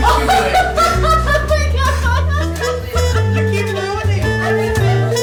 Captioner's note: laughs maniacally